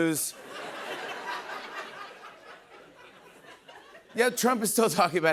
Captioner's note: laughter